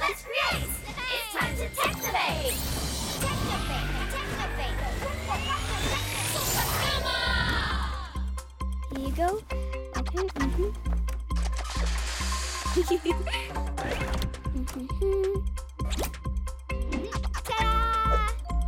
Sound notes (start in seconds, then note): 12.7 giggling; 13.8 humming